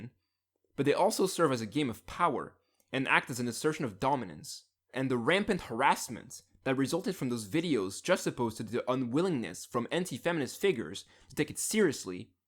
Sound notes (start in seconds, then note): none